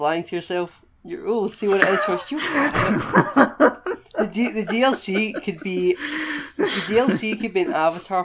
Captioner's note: laughter